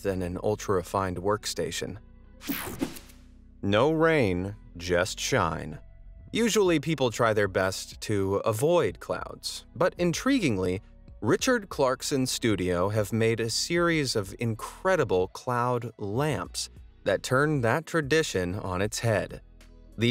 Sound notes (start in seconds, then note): 2.4 air whooshing; 6.3 upbeat music